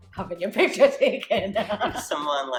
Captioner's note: laughing